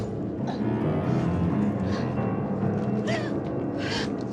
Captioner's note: doux sanglots